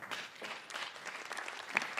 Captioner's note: applause